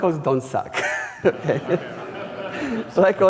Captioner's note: audience laughing